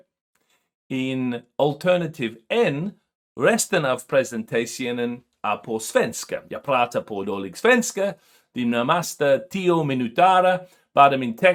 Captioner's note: speaking swedish